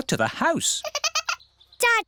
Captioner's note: giggling